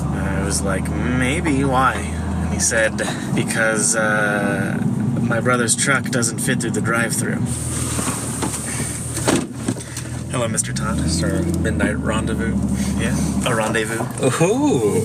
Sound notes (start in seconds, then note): 9.1 car door closes